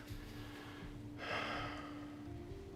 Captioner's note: sighs